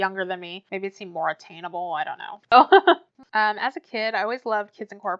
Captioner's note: laughs